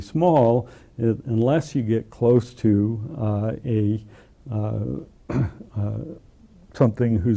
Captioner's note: cough